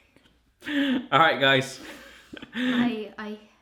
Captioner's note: laughs